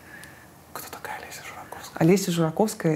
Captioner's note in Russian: шёпотом